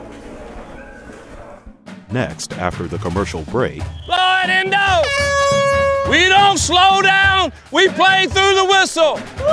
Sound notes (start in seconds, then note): 3.9 horn blowing